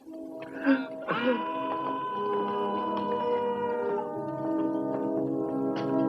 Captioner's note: man yells